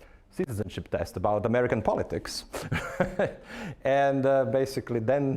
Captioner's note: laughing